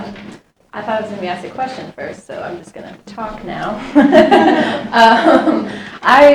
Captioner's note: audience laughs